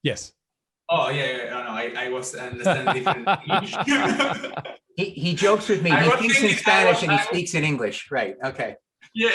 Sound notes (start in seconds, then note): 4.0 both laughing